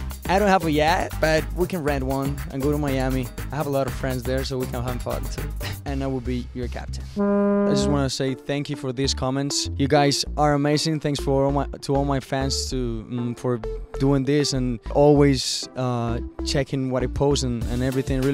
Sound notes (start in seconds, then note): 7.2 boat horn honking